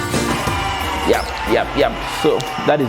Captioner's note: power tools whirring